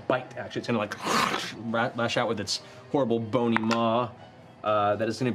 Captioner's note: snarls